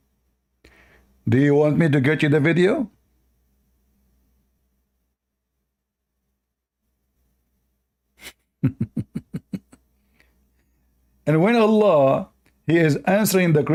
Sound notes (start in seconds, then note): 8.6 Ketawa